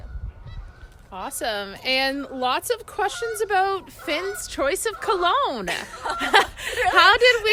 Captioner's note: laughing